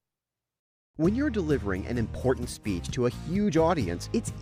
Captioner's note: voiceover